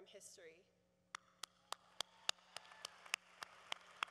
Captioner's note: applause